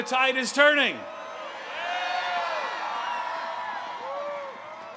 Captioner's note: crowd cheering